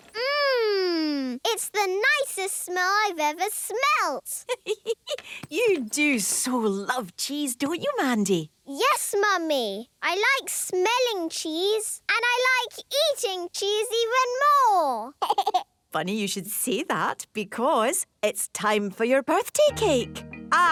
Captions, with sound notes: - Mmmm! It's the nicest smell I've ever smelt! - (giggling) You do so love cheese, don't you, Mandy? - Yes, Mummy! I like smelling cheese. And I like eating cheese even more! - Funny you should say that because... ...it's time for your birthday cake!